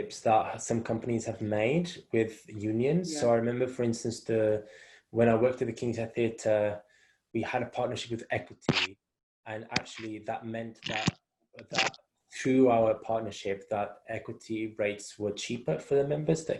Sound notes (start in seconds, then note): 10.8 crackling